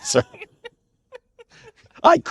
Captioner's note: laughing